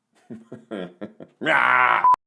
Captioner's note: laughs